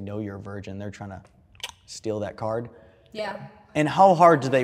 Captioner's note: tongue clacks